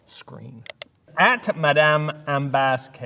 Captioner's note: mouse clicking